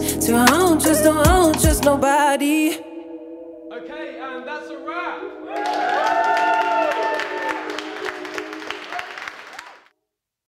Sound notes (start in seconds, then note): 5.4 people cheering and clapping